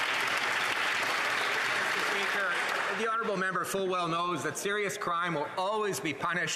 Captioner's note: applause